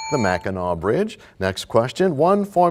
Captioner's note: bell rings, time expires